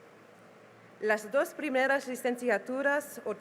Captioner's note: speaking spanish